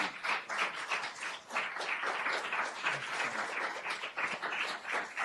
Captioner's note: applause